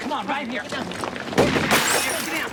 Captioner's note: shot firing